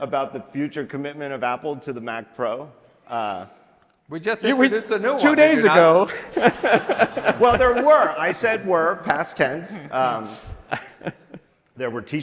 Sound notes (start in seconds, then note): 5.1 laughing